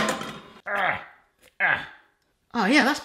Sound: clattering; grunting

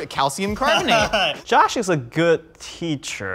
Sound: laughing

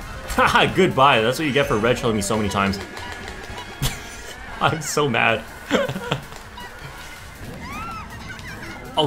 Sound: laughs

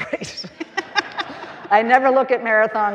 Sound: all laughing

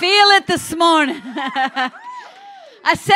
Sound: laughs

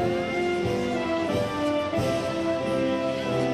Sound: none

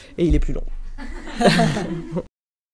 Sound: rires

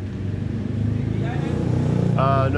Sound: speaking in foreign language

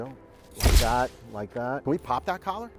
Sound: shutter snaps

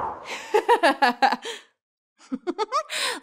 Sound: wind howls; girl giggles; star giggles

